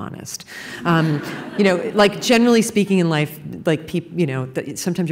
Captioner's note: laughter